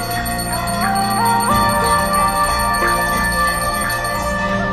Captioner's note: chanting